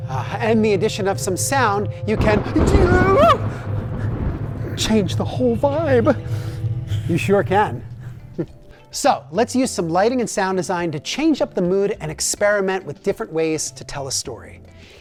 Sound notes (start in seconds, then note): 2.3 thunder cracking; 2.7 screams